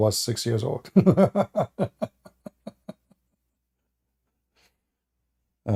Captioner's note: Ketawa